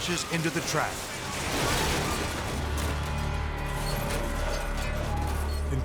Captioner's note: motorcycles clanking